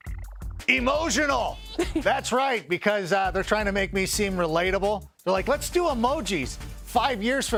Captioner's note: laughter